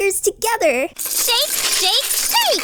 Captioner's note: rattling